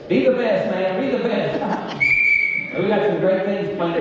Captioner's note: whistle blows